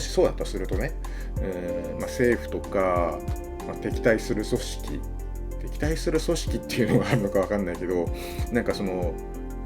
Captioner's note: laughs